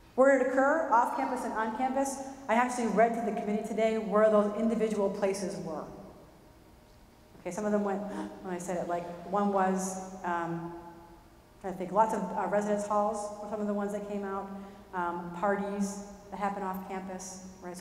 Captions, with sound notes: Where'd it occur? Off campus and on campus. I actually read to the committee today where those individual places were. Okay. Some of them went [gasp] when I said that like one was, I think lots of residence halls were some of the ones that came out, parties that happen off campus, right?